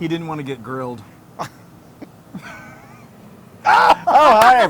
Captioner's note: laugh